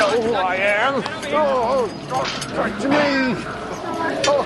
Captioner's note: Стенания